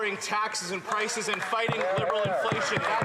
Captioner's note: some Applause